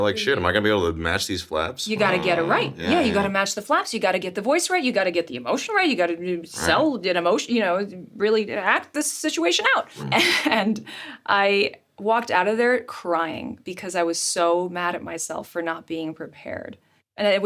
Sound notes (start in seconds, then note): 9.8 laughs